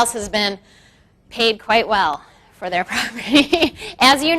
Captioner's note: laughs